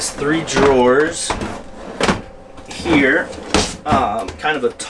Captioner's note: sound of drawers sliding open and closed